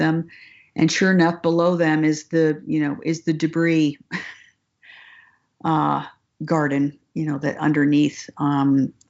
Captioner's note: laughs